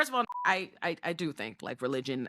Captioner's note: beep